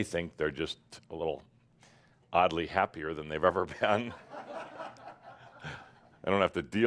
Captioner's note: laughter